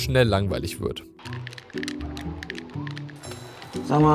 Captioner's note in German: Controllergeräusche, leichtfüßige Klänge